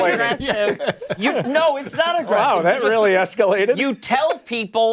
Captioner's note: laughter